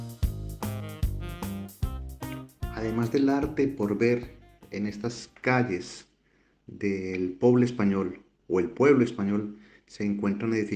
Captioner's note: in Catalan; Spanish